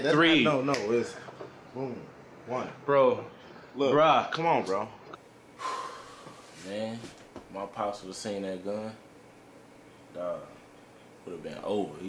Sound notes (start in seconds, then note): 5.5 scoffs